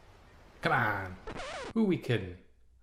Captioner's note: record scratching